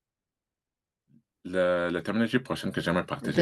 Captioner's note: speaking french